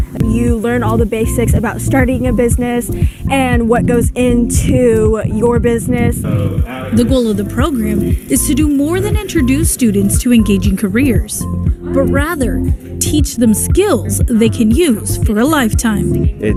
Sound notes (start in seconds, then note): 7.1 voiceover